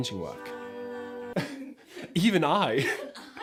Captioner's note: laughs